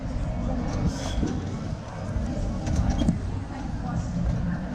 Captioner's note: people chattering